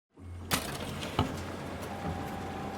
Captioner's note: buzzing